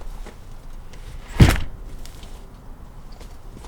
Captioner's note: door closes